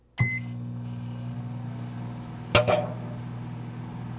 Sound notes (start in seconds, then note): 0.1 microwave on